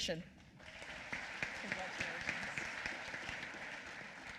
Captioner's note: applause